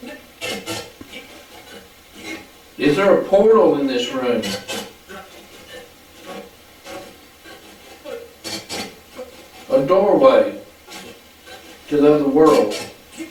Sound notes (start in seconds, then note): 0.1 static playback transmitting; 5.1 static playback transmitting; 13.0 static playback transmitting